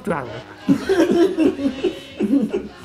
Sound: laughter

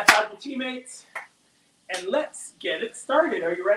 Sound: slaps hands

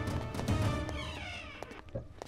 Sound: door opens

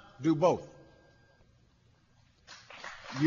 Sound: applause

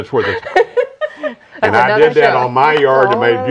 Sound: laughing

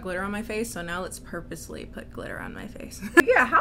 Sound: laughs

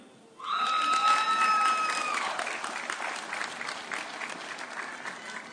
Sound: audience cheering

